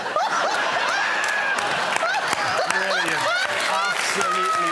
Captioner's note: laughter